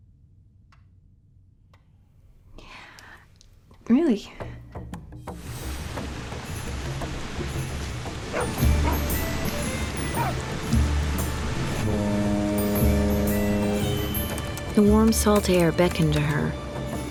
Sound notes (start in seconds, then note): 8.2 dogs barking; 12.2 boat horn; 14.6 typing